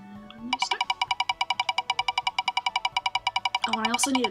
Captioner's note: clicky spinner